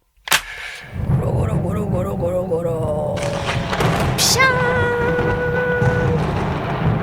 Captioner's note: sound of Lightning bolt